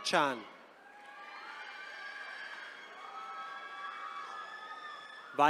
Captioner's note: attendees cheering